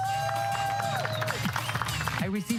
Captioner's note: crowd cheers